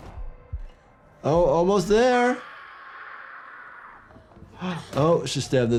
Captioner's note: speaker screams